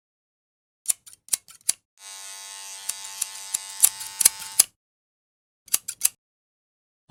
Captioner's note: sounds of buzzing and the usage of scissors